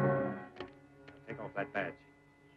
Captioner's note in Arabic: صوت البندقية